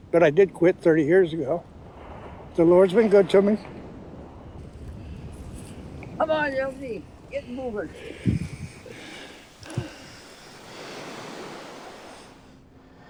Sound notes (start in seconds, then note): 4.0 wind blowing; 7.6 heavily breathing; 10.9 waves crashing